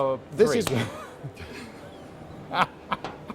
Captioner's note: mutual laughter